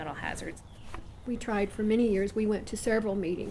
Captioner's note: voiceover